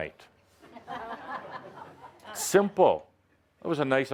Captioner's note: laughter